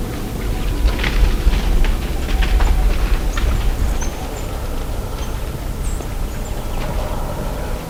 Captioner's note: sound of birds; sound of running; very soft music